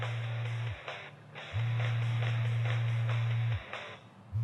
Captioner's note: cell phone ringing